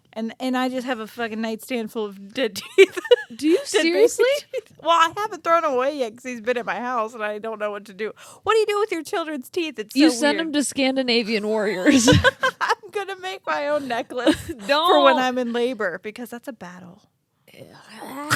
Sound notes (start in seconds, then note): 11.8 laughing